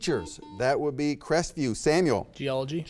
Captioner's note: buzzer beeps